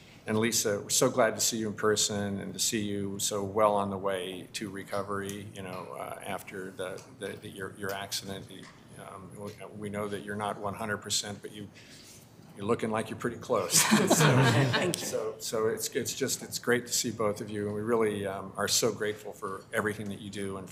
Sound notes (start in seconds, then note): 13.6 members laughing